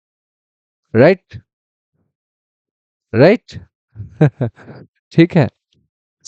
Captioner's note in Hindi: हंसी